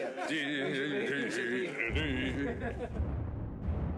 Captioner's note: humming